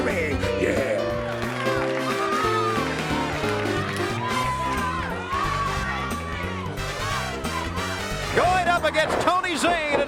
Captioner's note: crowd cheering